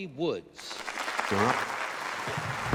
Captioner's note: all applauding